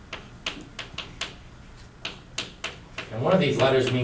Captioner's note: chalk clicking on board